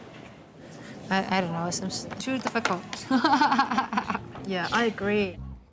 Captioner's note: laughs